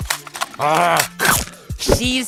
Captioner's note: biting sound